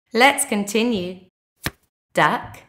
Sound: the sound of a card being turned over can be heard

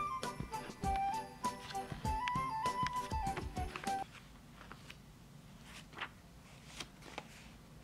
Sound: page flipping

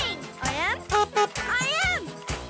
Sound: horn honks

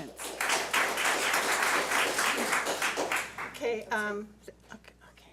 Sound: public applauding

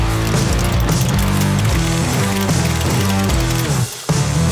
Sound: clippers cutting

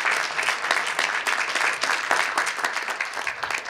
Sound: cheers and applause

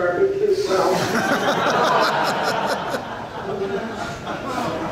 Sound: audience laughs

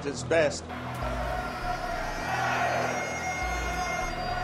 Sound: people shouting

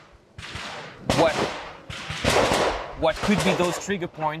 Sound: gunfire popping

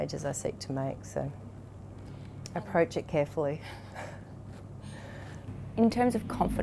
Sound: laughter

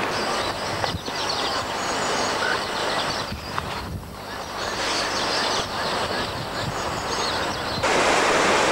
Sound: morning chirps; wind blasts; water flowing

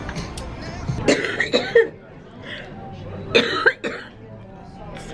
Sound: coughing

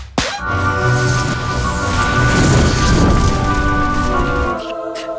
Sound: upbeat music plays; flames crackle; muffled crying

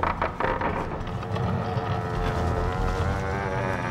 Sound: door creaking

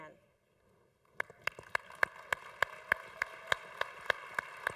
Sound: congregation applauding

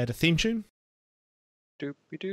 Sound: long pause

